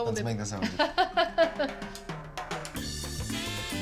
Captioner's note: laughs